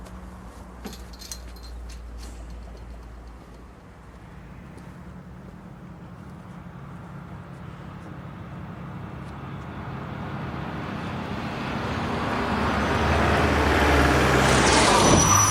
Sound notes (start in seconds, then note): 12.1 engine rumbling